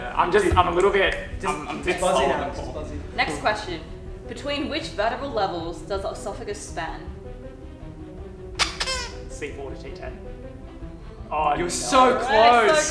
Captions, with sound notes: - I'm just... I'm a little bit... - Just buzz it now. - Next question. Between which vertical levels does the oesophagus span? (squeaks) - C4 to T10? Oh, you're so close.